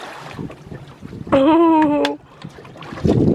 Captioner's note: splashes into the water; giggles